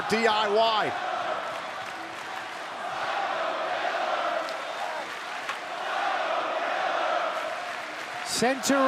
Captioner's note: crowd cheering